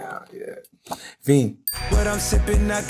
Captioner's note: bell dings